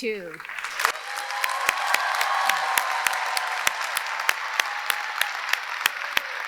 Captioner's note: audience applauding; audience cheering